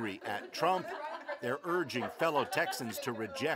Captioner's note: laughter